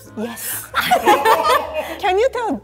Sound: both laughing

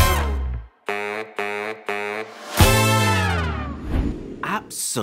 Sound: screen whooshes; music concludes

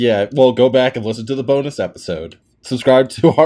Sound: laughter

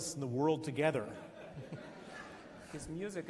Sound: laughs

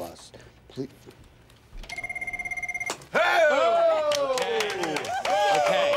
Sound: telephone rings, all cheer

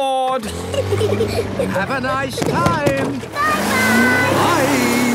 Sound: children giggling

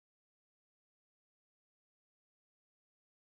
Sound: whoosh

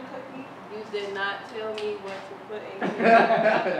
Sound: class laughing

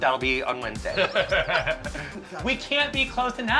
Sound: laughing

